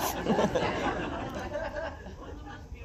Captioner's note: laughs